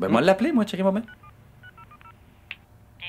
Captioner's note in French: bip des touches téléphoniques